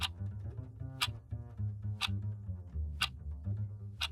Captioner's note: clock ticking